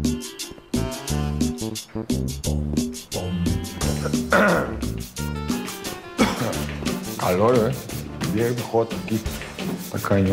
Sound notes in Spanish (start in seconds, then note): 3.3 Carraspea